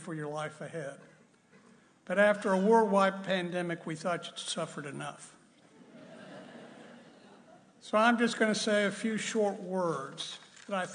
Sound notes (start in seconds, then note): 5.7 audience laughing